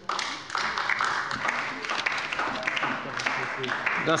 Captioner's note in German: Beifall bei der LINKEN